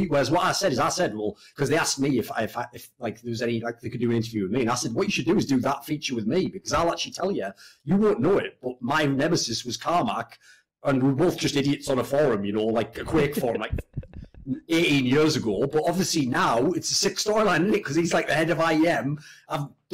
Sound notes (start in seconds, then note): 13.0 laughs